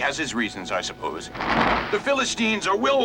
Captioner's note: rock scraping against ground